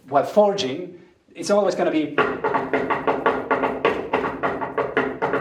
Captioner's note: knocks on piano